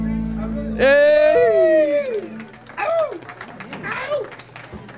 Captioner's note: cheering and howling